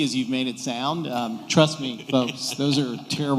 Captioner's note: laughter